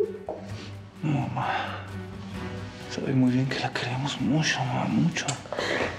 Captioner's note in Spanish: sollozos